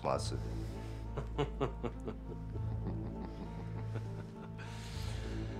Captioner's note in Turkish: Gülme sesi